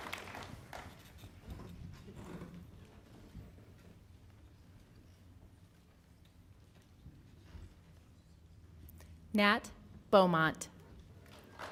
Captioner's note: applause